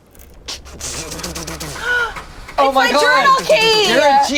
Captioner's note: engine revving